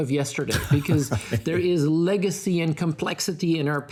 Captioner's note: laughing